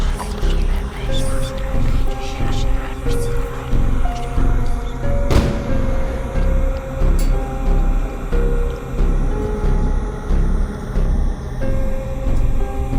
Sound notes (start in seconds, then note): 5.2 thunder strike